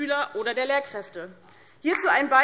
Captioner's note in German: Beifall DIE LINKE